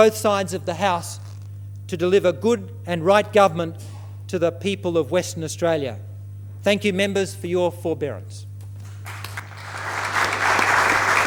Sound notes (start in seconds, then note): 8.8 applause